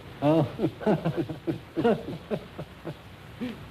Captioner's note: both laughing